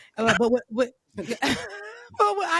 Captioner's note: laughter